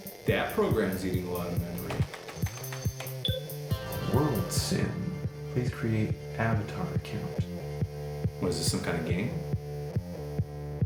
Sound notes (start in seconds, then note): 1.7 rapid typing; 2.9 8-bit game theme music